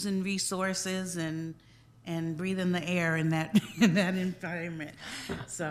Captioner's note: chuckling